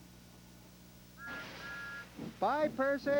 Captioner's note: whistle toots